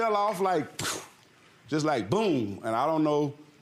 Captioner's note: makes splat noise